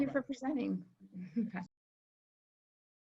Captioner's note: chuckles